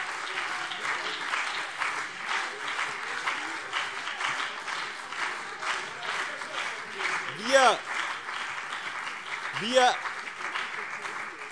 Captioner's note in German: Beifall BÜNDNIS 90/DIE GRÜNEN und CDU - Lebhafte Zurufe SPD